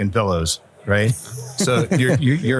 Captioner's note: chuckles